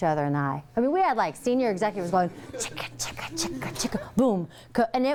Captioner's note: beatboxing